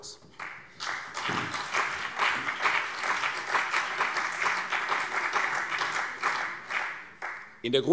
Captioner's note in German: Beifall CDU und BÜNDNIS 90/DIE GRÜNEN